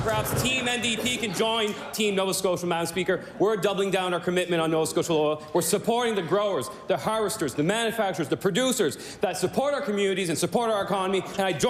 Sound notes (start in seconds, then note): 0.0 cheering/Applause